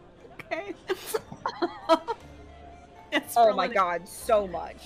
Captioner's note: laughs